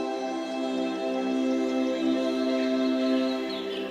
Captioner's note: tranquil music; birds chirping